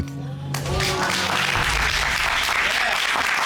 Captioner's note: applause